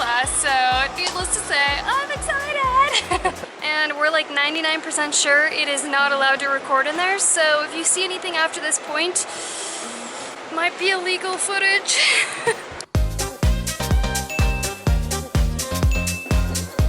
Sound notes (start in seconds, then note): 11.8 laughs